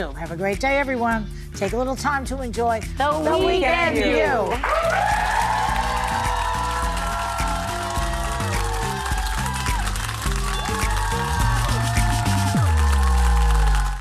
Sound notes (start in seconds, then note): 4.5 cheers and applause; 6.5 audience cheering; 7.5 audience applauding; 9.5 upbeat music; 12.6 audience applauding